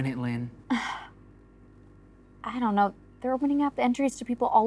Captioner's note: gasps